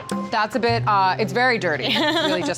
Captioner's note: laughter